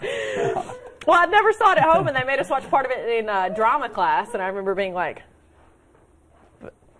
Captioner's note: laughter